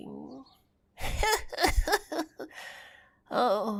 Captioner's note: brief cackle